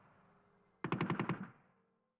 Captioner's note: gunfire sounds